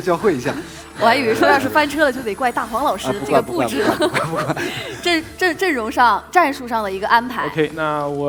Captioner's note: laughs